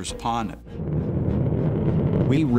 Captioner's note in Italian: il rumore di un razzo